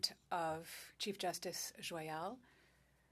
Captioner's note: speaking French